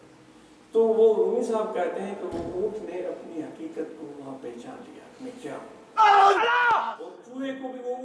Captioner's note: ALLAH! scream in ecstasy